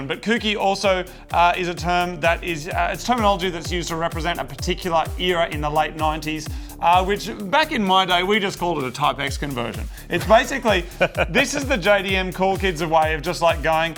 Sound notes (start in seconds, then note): 10.0 laughs